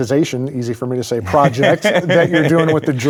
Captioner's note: laughing